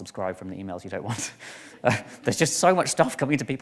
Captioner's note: chuckles